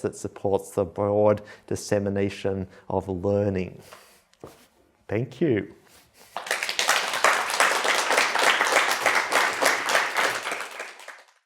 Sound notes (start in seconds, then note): 6.3 applause